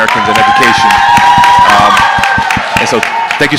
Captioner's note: audience clapping